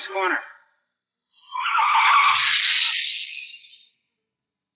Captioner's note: car wheels screech